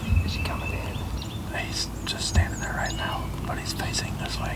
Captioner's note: whispering